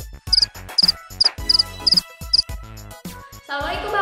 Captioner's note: cricket